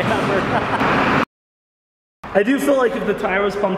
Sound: laughing

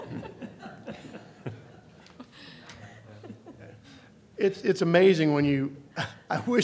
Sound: laughter

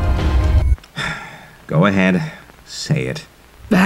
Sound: sigh

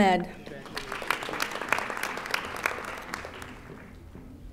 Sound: audience applauding

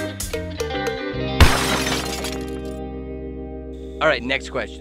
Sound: plucky string music; crashing noise

